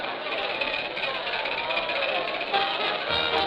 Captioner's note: men cheering; lively music